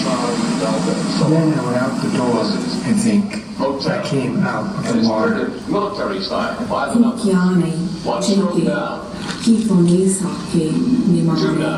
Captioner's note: female voice speaking in Indigenous Myaamia language